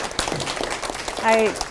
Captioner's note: applause